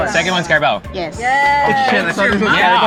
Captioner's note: applauds